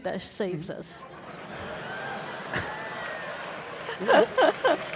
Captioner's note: audience laughing